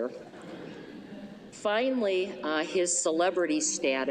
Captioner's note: laughter